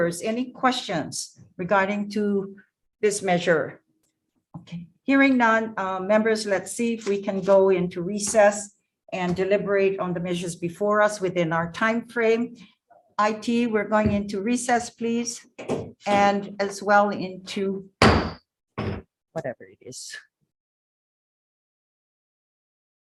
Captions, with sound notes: any questions regarding to this measure? Okay, hearing non members let's see if we can go into recess and deliberate on the measures before us, within our timeframe. IT we're going into recess please and as well into, (gavel banging) whatever it is.